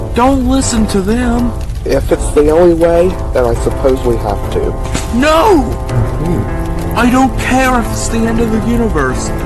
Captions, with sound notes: Don't listen to them! - If it's the only way, then I suppose we have to. [SMACK] - NO! [ASHER AND THE LOYALIST GASP] - I don't care if it's the end of the universe,